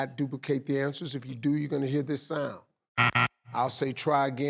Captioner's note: buzzing